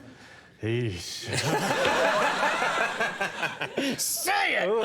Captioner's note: Jack groaning; audience laughing